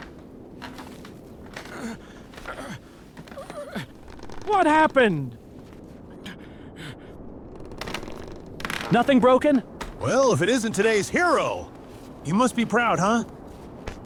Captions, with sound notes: (Heavy breathing) (Moans) What happened? (Boat creaks) Nothing broken. Well, if it isn't today's hero. You must be proud.